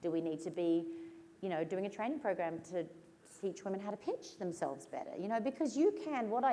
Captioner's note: none